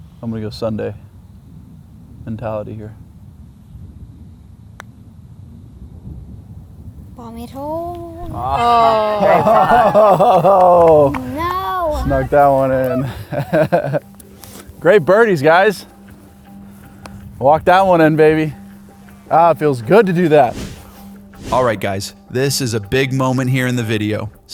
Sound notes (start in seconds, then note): 8.2 laughing & Cheering; 13.8 laughs